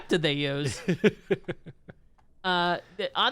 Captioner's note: laughs